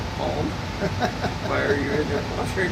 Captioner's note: laughing